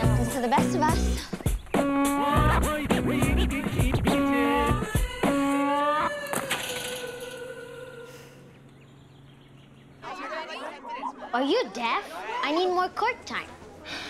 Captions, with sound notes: - Happens to the best of us. (upbeat music) (Sunny sighs) - Are you deaf? I need more court time!